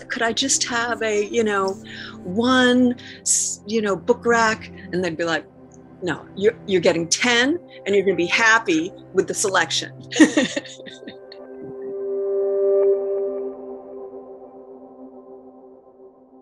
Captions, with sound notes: Could I just have a, you know, one, you know, book rack? And they'd be like, no. You're getting 10, and you're going to be happy with the selection. [LAUGHING]